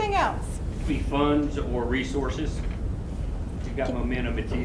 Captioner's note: voiceover